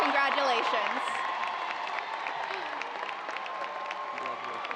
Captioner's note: audience cheers and applause